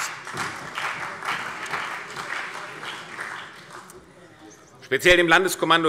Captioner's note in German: Beifall